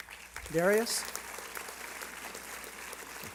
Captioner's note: applause